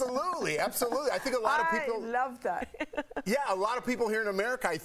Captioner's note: laughter